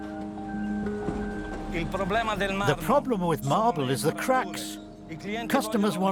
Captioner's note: male voice 2 in Italian